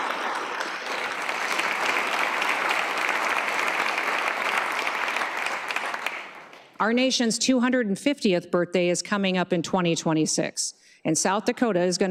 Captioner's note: applause